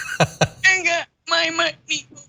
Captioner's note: laugh